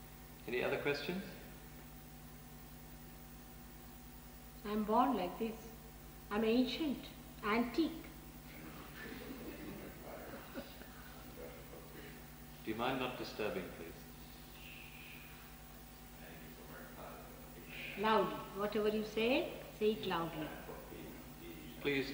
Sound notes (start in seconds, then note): 10.3 laughter, She laughs